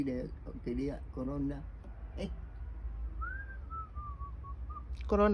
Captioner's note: whistles